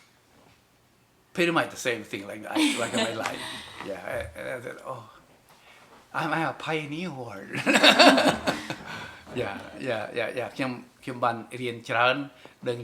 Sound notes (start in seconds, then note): 7.6 laughs, continues in Khmer